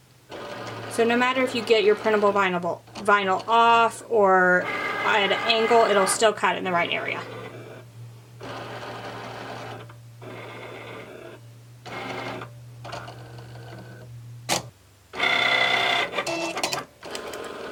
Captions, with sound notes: So no matter if you get your printable vinyl off or at an angle, it'll still cut it in the right area. (machine clicking and beeping)